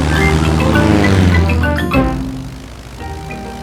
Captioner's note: plane engine revving